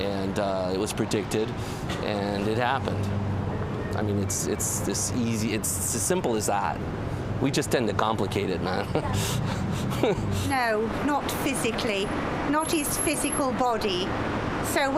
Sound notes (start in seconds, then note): 8.7 laughs